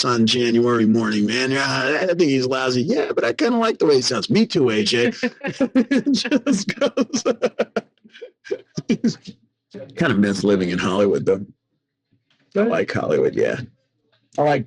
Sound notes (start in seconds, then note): 6.1 laughing